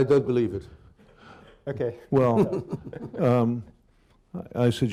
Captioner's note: laughs